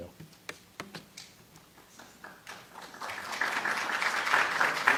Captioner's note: applause